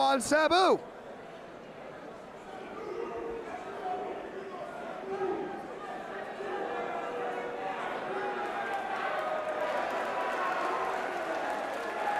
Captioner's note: crowd chatter